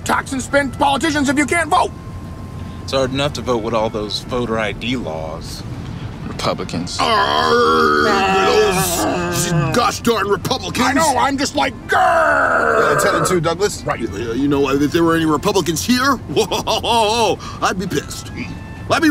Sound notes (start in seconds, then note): 7.0 groaning; 12.0 growling